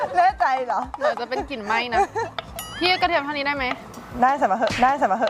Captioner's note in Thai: เสียงหัวเราะ